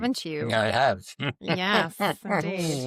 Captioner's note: laughs